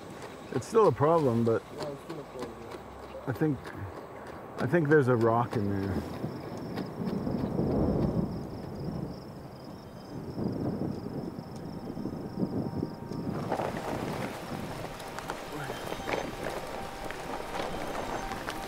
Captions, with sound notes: It's still a problem, I think there's a rock in there. (thunder in the distance) (raining)